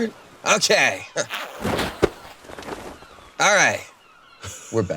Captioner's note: waves crashing